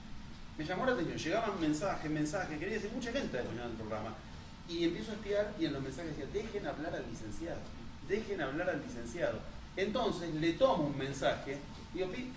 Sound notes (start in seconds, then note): none